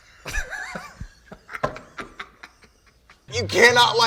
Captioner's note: laughs